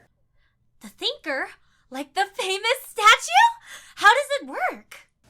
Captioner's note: on phone